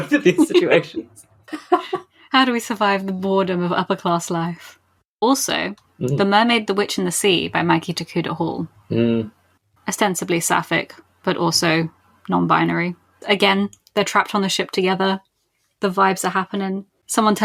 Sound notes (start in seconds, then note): 1.5 laughs